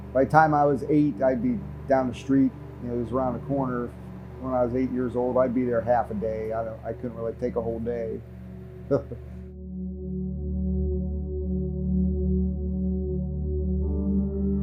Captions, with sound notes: By the time I was eight, I'd be down the street. And it was around the corner. When I was eight years old, I'd be there half a day. I couldn't really take a whole day. (man chuckling) (moody instrumental music)